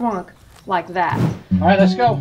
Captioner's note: whoosh